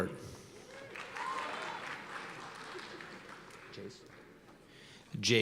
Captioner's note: cheers and applause